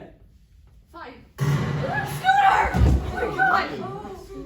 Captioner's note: loud gunshot